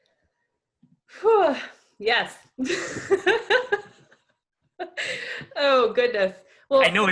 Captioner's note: laughing